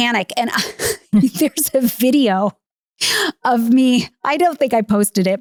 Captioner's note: laughing